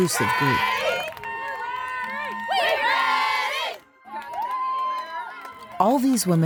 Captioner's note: cheers